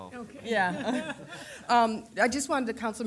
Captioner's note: chuckling